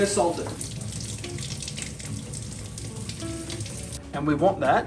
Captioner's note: water running